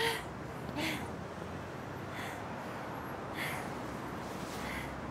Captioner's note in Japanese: 妻の荒い息